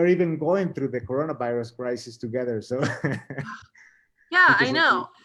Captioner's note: laughs